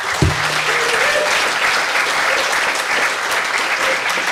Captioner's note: audience applause